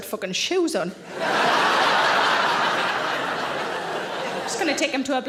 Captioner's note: audience laughing